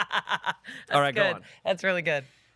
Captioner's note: laughs